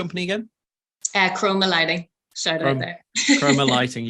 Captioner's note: laughs